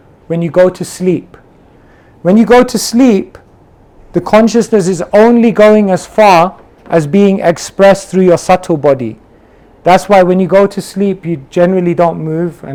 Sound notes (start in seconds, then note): none